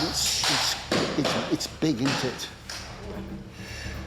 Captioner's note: stutters